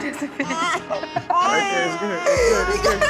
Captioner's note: laughs